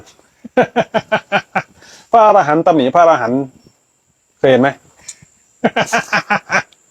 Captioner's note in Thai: เสียงหัวเราะ